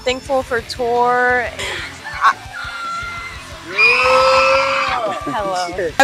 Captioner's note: scream